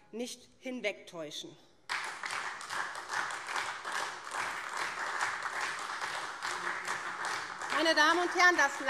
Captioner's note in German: Beifall SPD und DIE LINKE